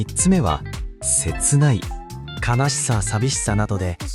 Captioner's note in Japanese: わら